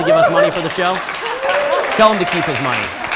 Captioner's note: audience applauding